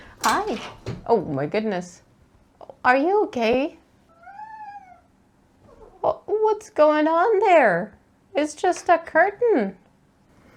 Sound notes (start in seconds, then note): 0.1 strange clattery noise behind camera; 4.1 barely audible complainy meow in response